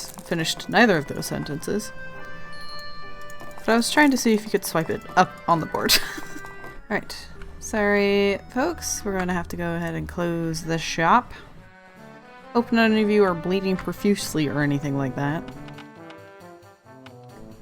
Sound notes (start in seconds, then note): 5.8 laughs